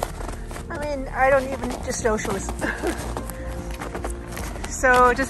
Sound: laughs

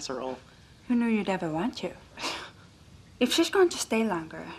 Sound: chuckling

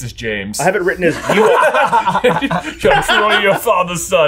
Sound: laugh

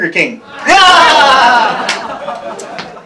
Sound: laughter

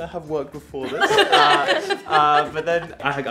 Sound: all laugh

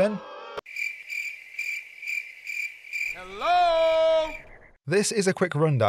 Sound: cricket noises. Helllloooo?

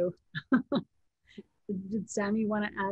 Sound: laughs

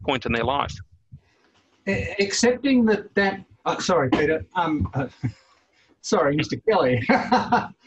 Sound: laughs

